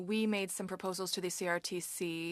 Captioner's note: speaking French